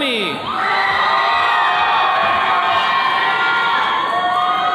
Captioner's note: attendees cheering